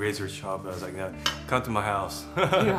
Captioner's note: laughs